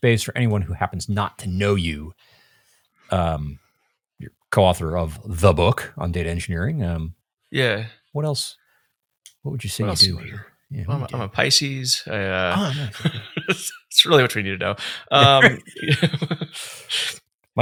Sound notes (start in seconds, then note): 12.1 laughing